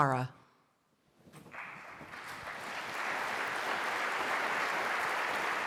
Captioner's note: applause